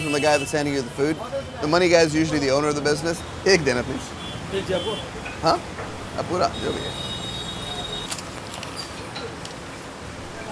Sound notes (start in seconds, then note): 3.7 speaking in foreign language; 4.8 owner speaking in foreign language; 5.7 speaking in foreign language